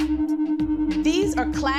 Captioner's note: high pitch sound